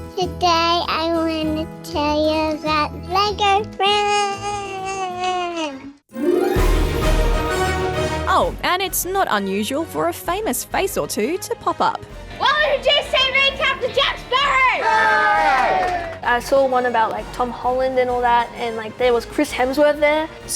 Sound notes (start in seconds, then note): 14.8 people cheer